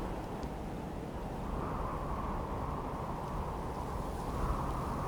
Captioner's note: wind howling